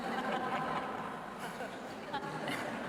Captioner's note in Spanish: Risas